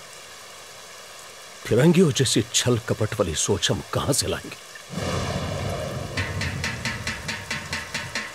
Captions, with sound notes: How will we ever think cunningly like the British? [Thunder rumbling] [Gong beating]